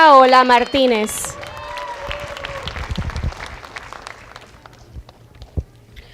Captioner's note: applause